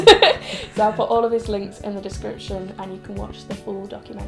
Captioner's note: laughs